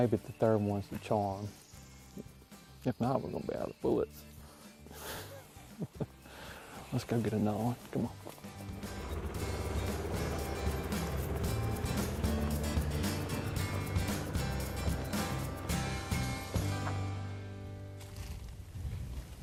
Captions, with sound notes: Maybe the third one is the charm. If not we're gonna be out of bullets. (laughs) Let's go get another one. Come on. (engine starts)